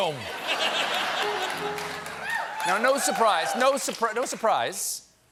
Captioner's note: laughter; piano riff